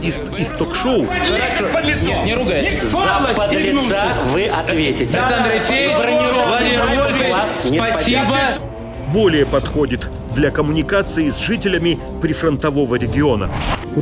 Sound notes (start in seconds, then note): 2.9 loud argument